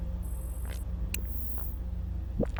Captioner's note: digital warble; loading noises; digital clicks; digital warble